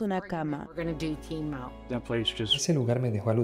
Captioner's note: Hablando idioma extranjero